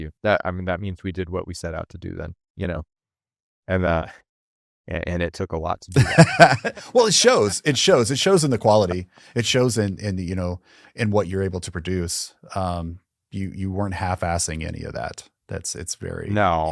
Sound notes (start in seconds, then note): 5.9 laughing